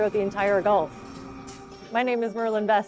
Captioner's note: machine noise